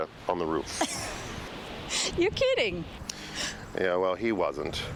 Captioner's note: laughs